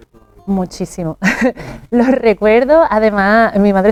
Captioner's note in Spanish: carraspeo